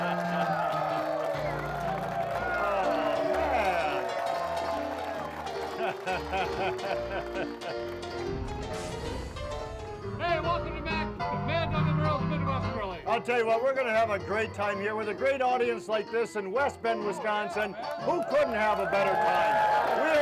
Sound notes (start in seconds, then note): 0.0 laughs; 0.4 audience applauding; 2.6 lively piano music; 5.7 laughs; 5.7 lively piano music; 8.3 text whooshing; 17.2 audience cheering